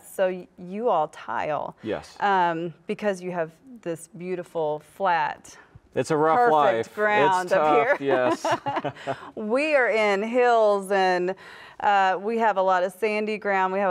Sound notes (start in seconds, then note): 7.5 both laugh